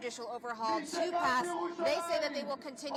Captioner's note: crowd chanting